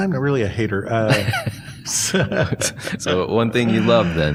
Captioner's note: laughter